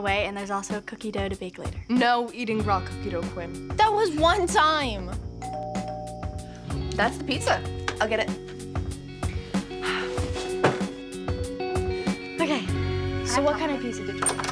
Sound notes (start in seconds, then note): 5.4 doorbell ringing